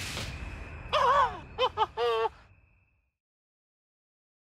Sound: whooping

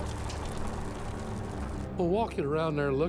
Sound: fire crackling; ominous instrumental music

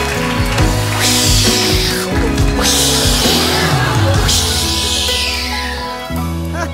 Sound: swishy carpet noises

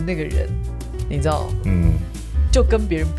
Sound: ahem

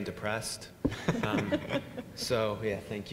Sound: laughing

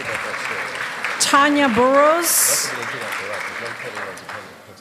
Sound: laughter and applause

